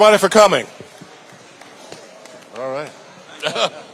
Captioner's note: audience chatting; conversing with audience members